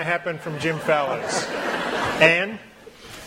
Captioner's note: laughter